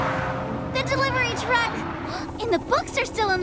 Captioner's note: gasping